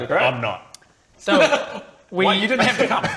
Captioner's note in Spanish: Risa nerviosa